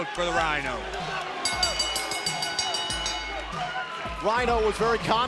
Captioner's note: bell ringing